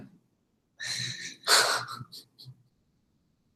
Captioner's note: laugh